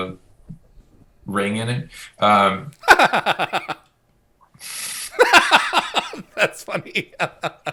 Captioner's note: laughs hysterically